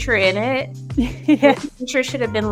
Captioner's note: laughs